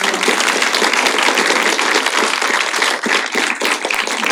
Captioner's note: applause